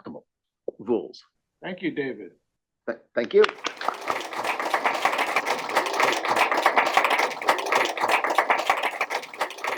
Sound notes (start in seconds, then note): 3.5 applause